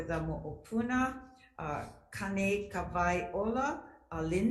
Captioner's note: speaks foreign language